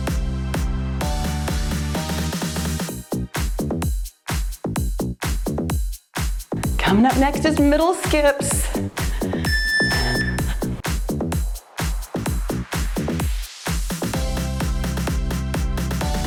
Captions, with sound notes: Coming up next is middle skips. (timer beeps) (cheerful music)